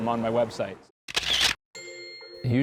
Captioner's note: sound of camera clicking